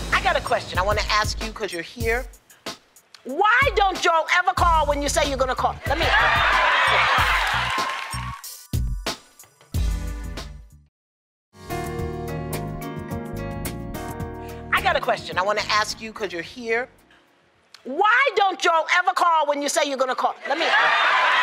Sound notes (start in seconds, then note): 5.8 cheering; 6.2 applause